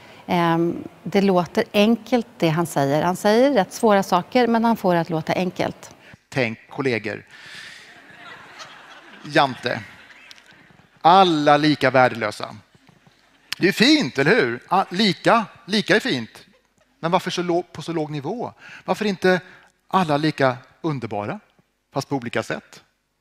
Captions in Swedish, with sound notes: Det låter enkelt det han säger. Han säger rätt svåra saker, men han får det att låta enkelt. Tänk kolleger. [skratt] Jante. Alla lika värdelösa. Det är ju fint, eller hur? Lika är fint. Men varför på så låg nivå? Varför inte alla lika underbara? Fast på olika sätt.